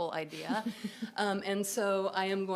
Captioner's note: laughter